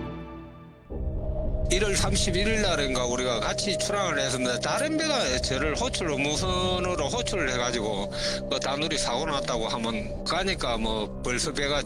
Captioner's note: voiceover